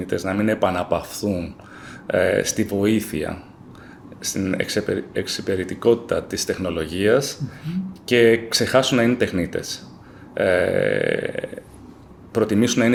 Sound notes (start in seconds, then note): 9.9 laughs